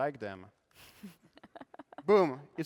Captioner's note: laughter